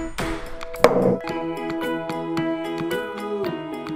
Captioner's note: hammer bangs